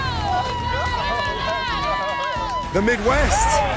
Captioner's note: cheering